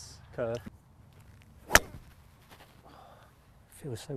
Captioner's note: hits ball